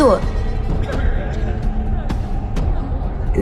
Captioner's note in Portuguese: burburinhos